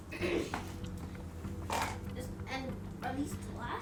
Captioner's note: clears throat